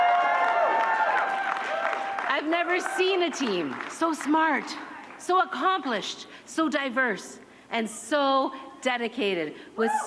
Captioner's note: cheering